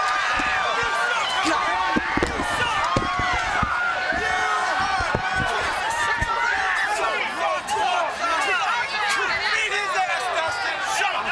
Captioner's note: crowd chatter